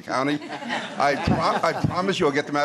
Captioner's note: laughter